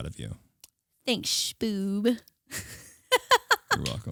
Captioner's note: laughing